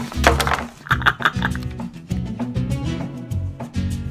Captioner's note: upbeat music; chuckles